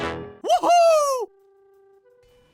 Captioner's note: cheer